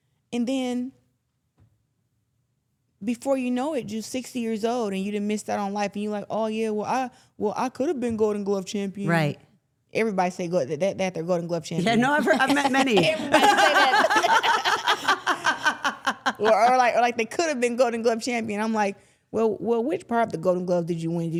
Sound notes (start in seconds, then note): 12.3 everyone chuckling